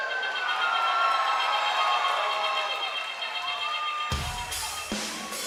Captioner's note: cheers and applause